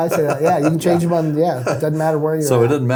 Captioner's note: laughing